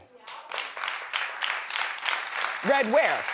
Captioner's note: audience claps